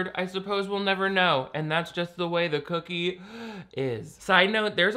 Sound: inhales

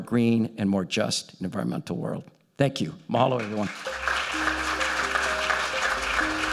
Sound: applause

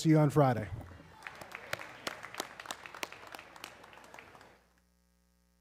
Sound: audience clapping

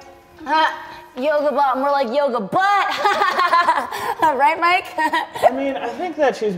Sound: laughs

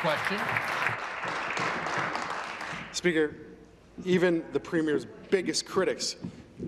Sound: applause

